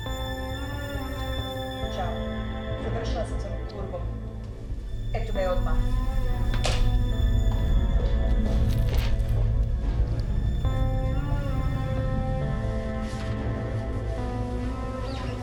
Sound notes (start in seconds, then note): 1.9 Ms. Hemlock speaking in foreign language; 7.6 tense music; 12.0 tense music continues